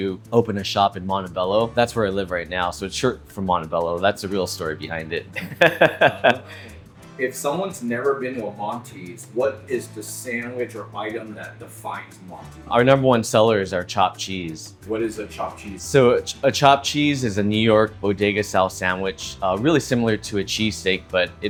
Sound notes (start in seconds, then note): 5.3 laughing